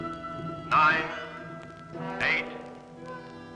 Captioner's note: loudspeaker